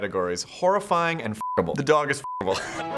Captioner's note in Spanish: pitido